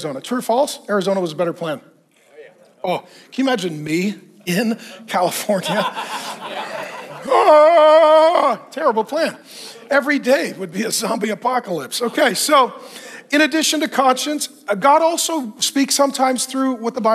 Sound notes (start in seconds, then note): 5.5 audience laughing